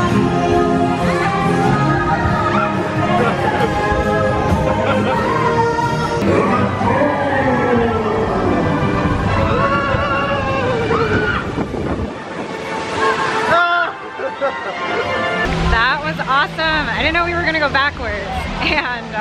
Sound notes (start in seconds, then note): 6.2 groaning; 13.9 ride-goers cheering